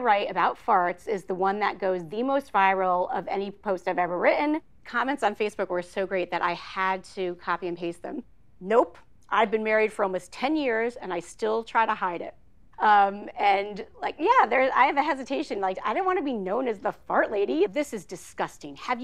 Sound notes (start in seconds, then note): none